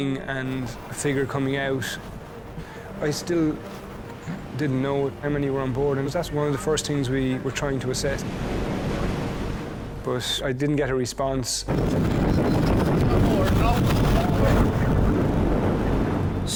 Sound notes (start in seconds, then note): 11.7 wind whooshing; 15.1 boat droning; 15.1 wind whooshing